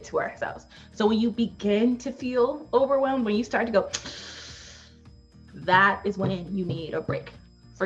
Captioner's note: sharp inhale